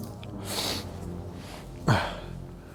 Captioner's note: sniff; sob